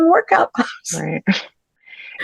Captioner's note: laughs